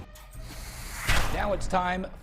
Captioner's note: logo swooshes